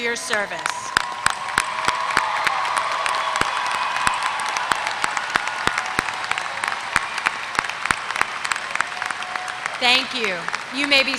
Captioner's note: applause